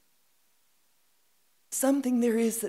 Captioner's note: reciting "Mending Wall" by Robert Frost